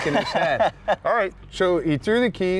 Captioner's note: laughing